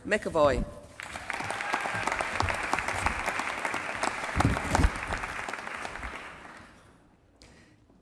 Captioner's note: applause